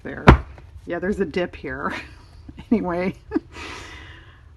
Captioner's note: laughs